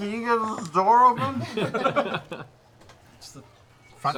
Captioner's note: laughter